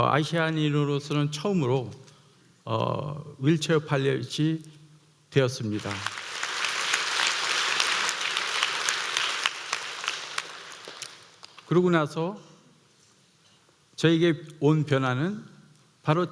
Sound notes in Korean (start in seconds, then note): 5.7 박수